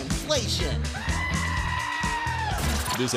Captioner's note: goat screams